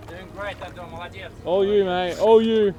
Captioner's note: russian